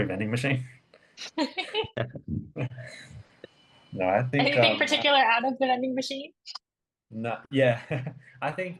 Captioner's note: giggles; chuckles